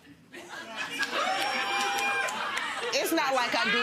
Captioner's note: audience cheering